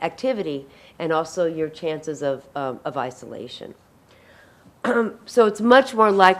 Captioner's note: clears throat